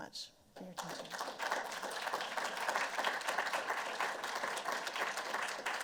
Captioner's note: applause